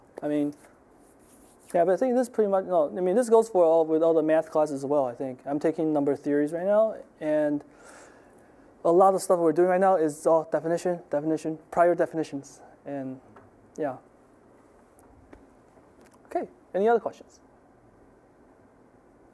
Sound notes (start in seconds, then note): none